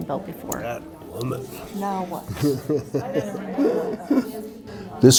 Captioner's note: indistinct chatter